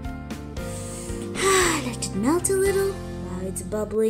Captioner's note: sighs happily